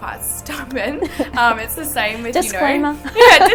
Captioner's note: both chuckling